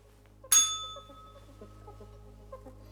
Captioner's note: bell rings